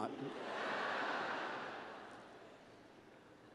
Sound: laughter

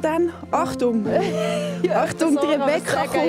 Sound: laughs

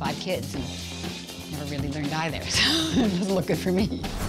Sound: laughs

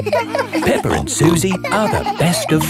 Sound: all laughing

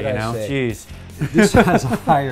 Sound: laughing

